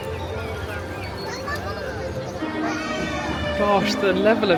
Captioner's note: crowd murmuring